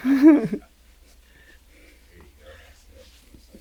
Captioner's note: interviewer chuckles